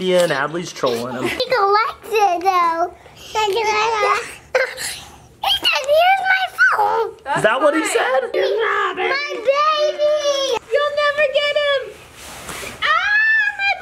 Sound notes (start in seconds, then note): 3.1 babbles